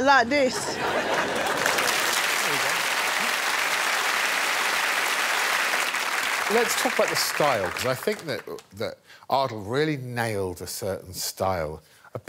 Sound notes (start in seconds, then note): 0.9 cheers and applause; 2.0 laughter